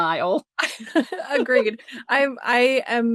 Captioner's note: laughter